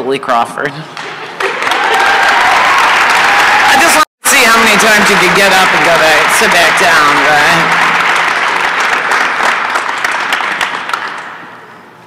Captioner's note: applause and cheering